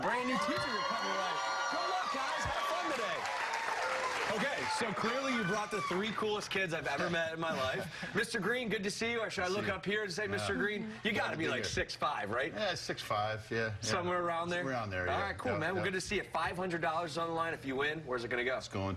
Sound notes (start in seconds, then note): 7.2 cheers and applause